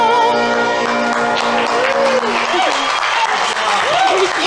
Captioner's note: audience applauding; audience members cheering